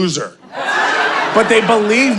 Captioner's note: audience laughing